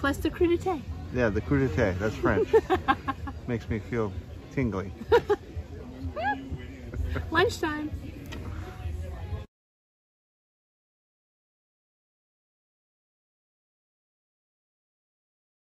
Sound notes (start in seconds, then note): 6.1 laughing